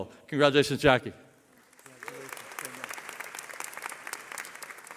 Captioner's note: applause